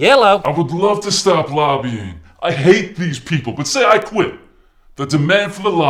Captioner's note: disguised voice